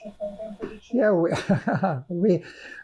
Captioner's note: laughing